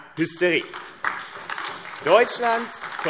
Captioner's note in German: Beifall AfD